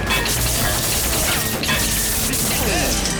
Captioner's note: electricity crackles